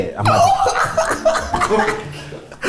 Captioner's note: laughs